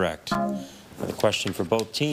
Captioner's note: buzzer buzzes